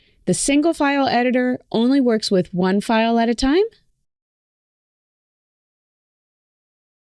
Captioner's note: none